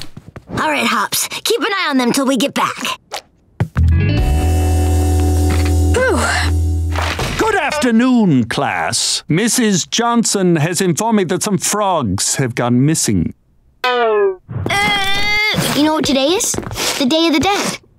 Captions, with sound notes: Alright, Hops, keep an eye on them till we get back. Whew. Good afternoon, class. Mrs. Johnson has informed me that some frogs have gone missing. [crying] You know what today is? The Day of the Dead.